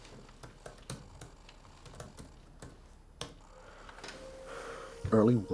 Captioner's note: keys clacking